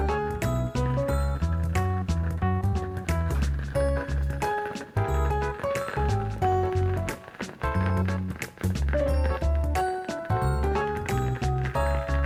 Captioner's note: fire crackling